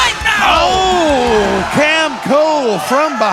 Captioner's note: audience cheering